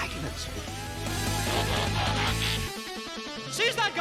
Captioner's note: transformer noise